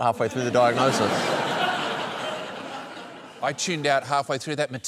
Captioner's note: laughter